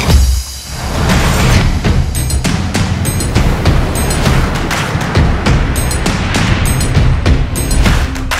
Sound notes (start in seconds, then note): 3.0 water splashing